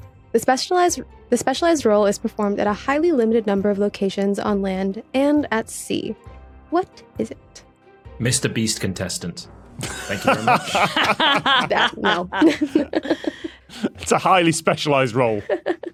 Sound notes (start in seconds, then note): 9.8 cackle; 12.7 giggles